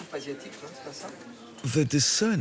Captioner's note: speaking in foreign language